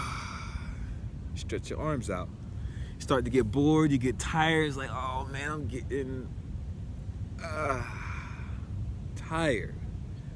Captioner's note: yawn